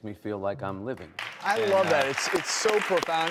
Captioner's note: audience applause